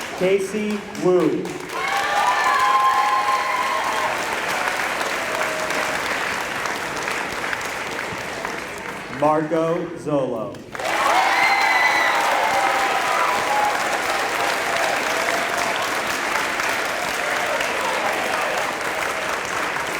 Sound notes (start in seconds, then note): 2.5 applause; 10.6 applause